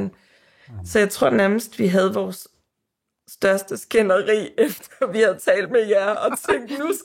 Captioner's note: laughs